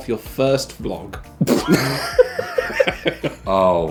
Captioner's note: laughing